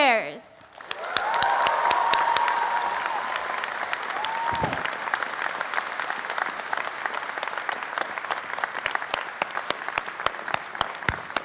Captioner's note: applause and cheering